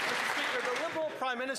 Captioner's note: applause